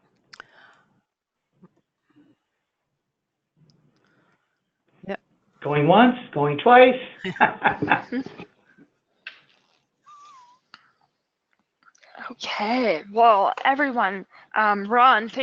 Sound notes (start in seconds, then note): 7.2 laughs